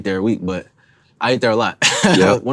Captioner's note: laughs